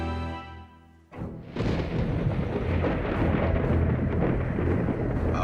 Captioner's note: thunder cracks